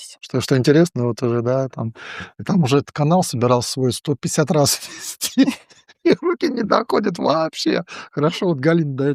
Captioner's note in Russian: смех